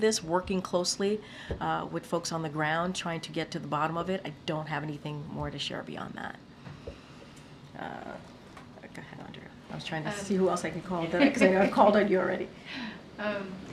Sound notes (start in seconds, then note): 10.8 laughs